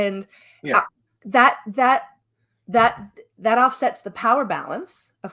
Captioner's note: none